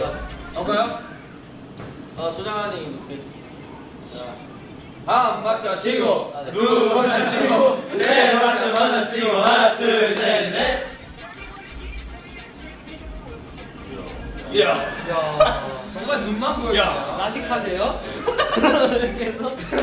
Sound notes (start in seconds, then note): 6.5 they're chanting again